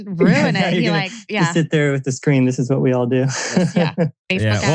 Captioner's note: laughs